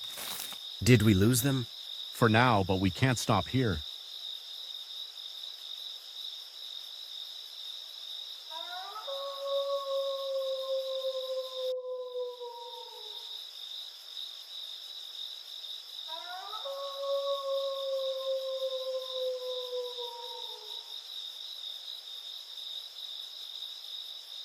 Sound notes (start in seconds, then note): 4.2 crickets chirping continues; 8.6 wolf howling; 12.3 crickets chirping continues; 16.2 wolf howling; 20.9 crickets chirping continues